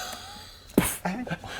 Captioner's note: poof